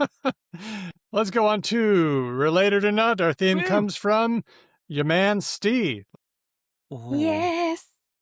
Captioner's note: laughs